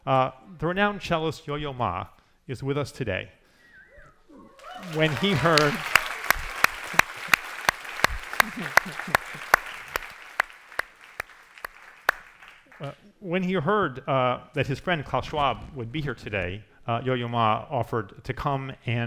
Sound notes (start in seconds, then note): 4.5 audience cheers and applauds